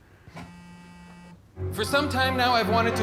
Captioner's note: plays horn; phone buzzes